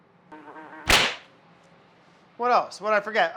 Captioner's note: fly buzzes; hands clap